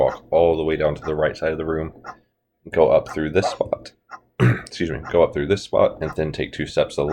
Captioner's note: voice cracks